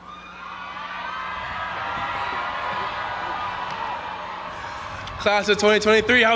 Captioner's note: audience applauding and cheering